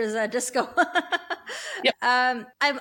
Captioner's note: laughs